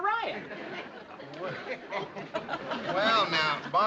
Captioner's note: residents chuckling